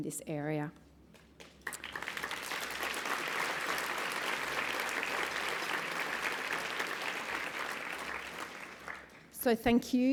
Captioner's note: applause